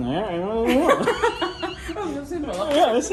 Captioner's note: both laughs